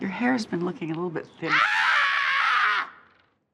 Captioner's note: screams